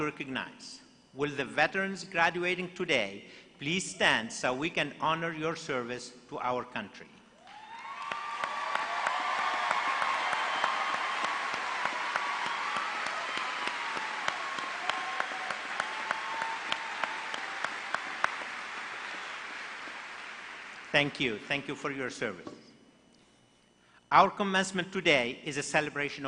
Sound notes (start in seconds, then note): 11.1 applause